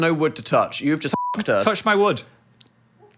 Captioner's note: beep